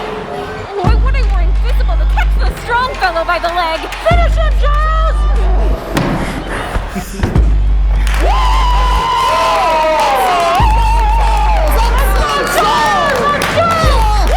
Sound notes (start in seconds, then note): 7.8 all cheering